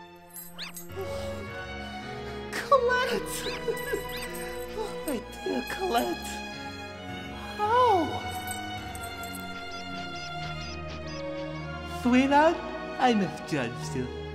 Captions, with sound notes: (COLETTE SQUEAKS) COLETTE! (PORTER GIGGLES) Oh, my dear Colette! How? (COLETTE SQUEAK-WHISPERS) SweetHart, I misjudged ya.